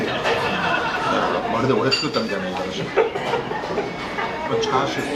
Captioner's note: laughs